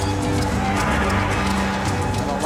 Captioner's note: tires screeching